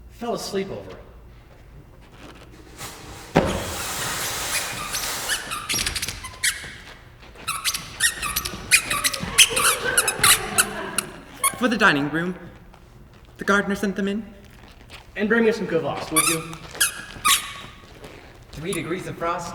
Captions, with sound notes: Fell asleep over it. [book falls with a thud] [extremely squeaky shoes] [extremely squeaky shoes] [audience laughs] -For the dining room- the gardener sent them in. -And bring me some kvass, would you? [extremely squeaky shoes] -Three degrees of frost